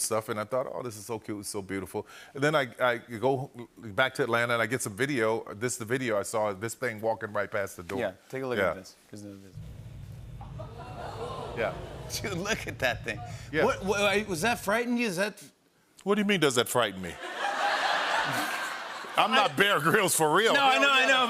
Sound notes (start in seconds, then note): 10.3 audience "Oohs"; 17.1 laughter